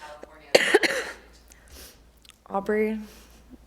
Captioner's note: coughing